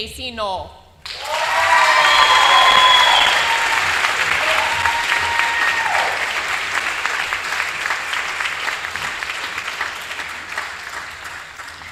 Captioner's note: applause